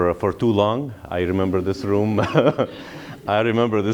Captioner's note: laughter